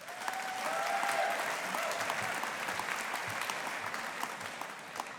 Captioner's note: audience applauding